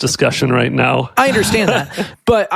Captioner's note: laughs